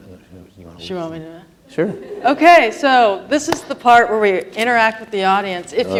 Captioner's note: claps